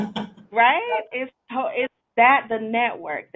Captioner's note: laughing